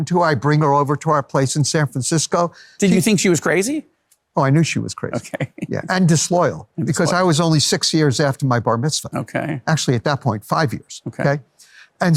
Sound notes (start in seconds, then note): 5.1 laughs